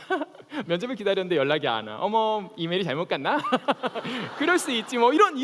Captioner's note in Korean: 웃음